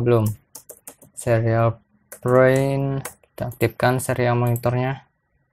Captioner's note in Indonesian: typing code